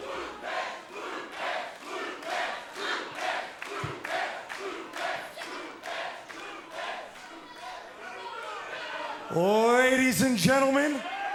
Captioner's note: fans chanting